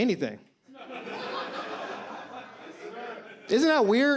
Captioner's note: audience laughs